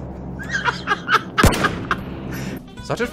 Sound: laughs

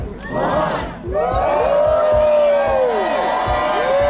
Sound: crowd cheering

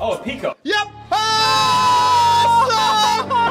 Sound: simultaneous cheering and despair

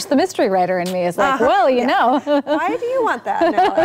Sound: laughing

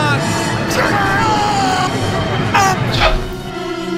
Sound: screaming

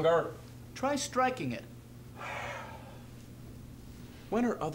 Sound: Franklin sighs frustratedly

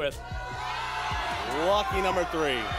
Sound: audience shouting numbers

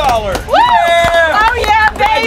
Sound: cheering

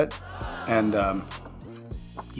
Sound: crowd booing

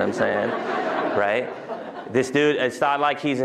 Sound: laughter

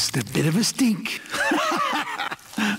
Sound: hahahaha

